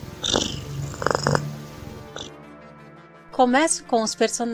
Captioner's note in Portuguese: ronrom